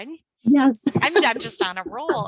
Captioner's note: laughs